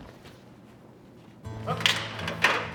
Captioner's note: walking sounds